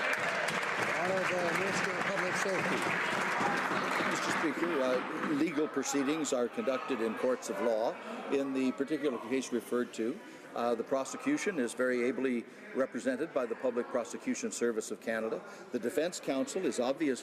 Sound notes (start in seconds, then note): 2.5 some Applause